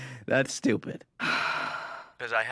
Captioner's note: sigh